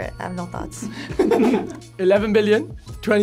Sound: both laugh

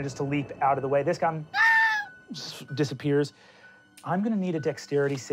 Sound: shrieks

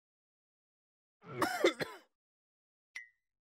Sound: coughs

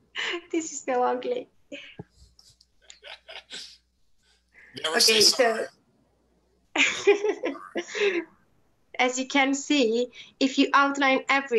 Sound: laughs

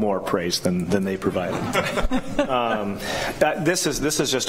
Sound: laughter

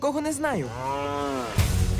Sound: moos

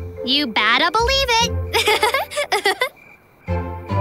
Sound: laughing

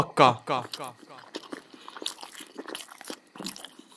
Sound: munching Continues

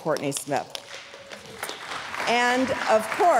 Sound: audience clapping

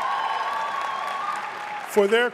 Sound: audience cheering and applauding

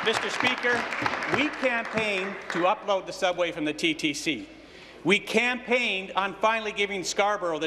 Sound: applause

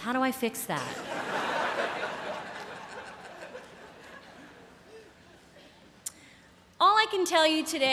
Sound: laughter

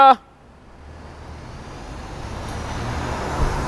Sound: engine revs

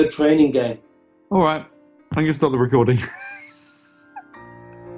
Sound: sniggering

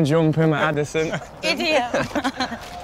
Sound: laughs

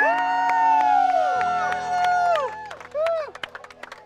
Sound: cheers

